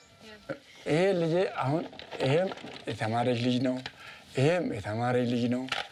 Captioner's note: speaking foreign language